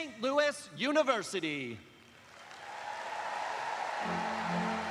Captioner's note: cheers and applause